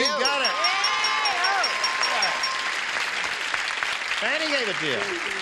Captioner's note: applause